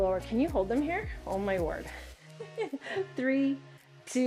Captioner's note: chuckles